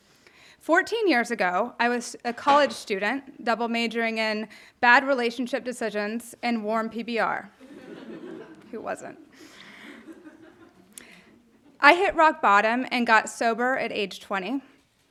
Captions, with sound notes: 14 years ago, I was a college student double majoring in bad relationship decisions and warm PBR. (audience laughing) Who wasn't? I hit rock bottom and got sober at age 20.